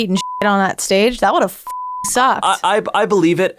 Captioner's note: beeping